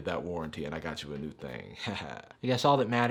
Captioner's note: laughing